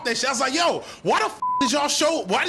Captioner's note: beep